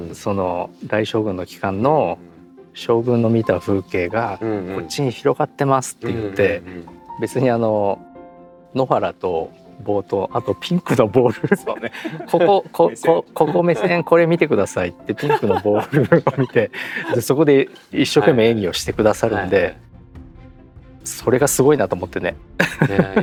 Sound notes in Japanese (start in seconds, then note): 10.8 笑い